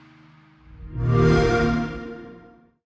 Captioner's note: xbox sound